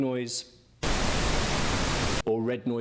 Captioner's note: static blaring